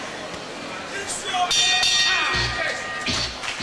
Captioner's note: bell rings twice to end Round 4; applause and cheering from the audience